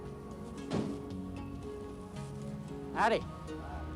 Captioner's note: van door thudding